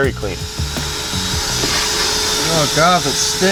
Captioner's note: vacuum humming